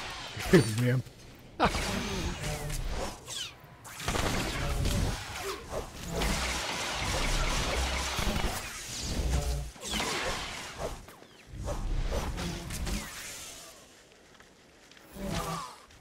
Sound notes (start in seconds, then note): 0.0 laughs; 3.8 gunshots